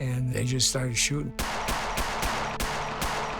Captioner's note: gunshots popping